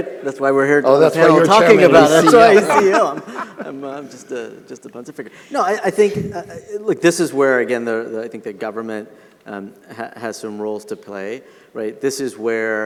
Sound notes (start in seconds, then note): 1.2 all laughing